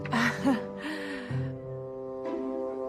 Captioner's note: laughs nervously